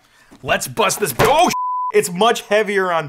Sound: beeps

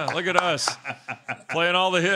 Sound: laughter

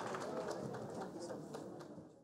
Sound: people conversing in background

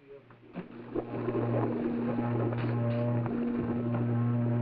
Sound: machinery whirring

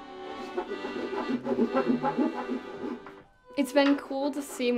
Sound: saw creaking

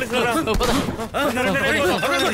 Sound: gunshot

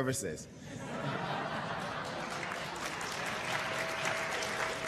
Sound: laughter and applause

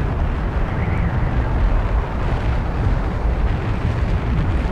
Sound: wind whistling

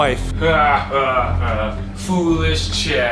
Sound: mysterious laughter

